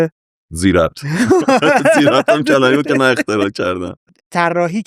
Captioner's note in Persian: خنده